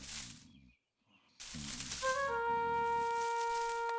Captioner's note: snoring